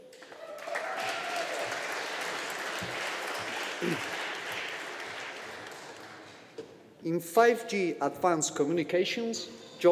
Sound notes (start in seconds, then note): 1.7 audience applauding